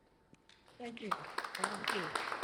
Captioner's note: applause